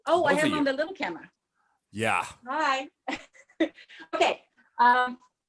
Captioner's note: laughs